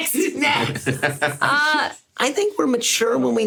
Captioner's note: SungWon laughs; laughs